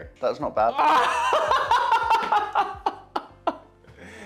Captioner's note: laughs